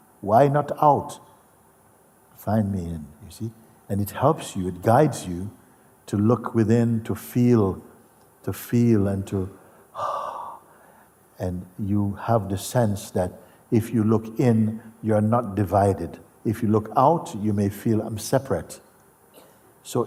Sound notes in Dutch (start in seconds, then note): 9.5 ademt uit